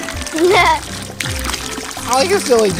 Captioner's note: giggles